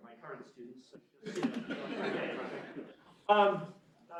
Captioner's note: laughter